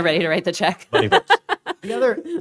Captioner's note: laughs